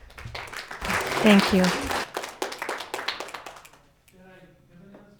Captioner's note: audience clapping